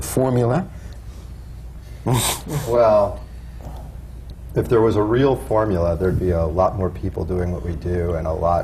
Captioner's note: laughs